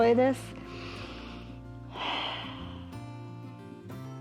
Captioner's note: inhales and exhales